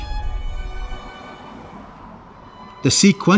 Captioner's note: car engine revving